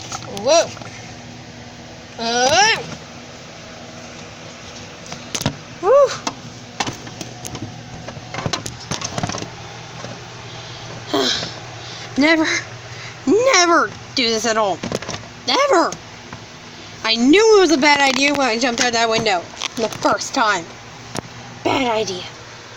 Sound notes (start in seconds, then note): 2.1 exclaims